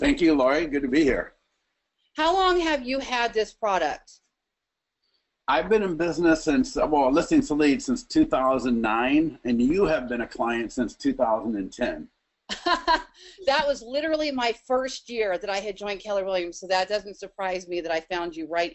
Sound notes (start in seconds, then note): 12.5 laughs